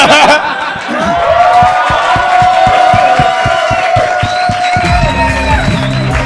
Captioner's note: cheering